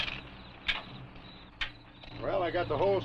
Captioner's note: crickets chirping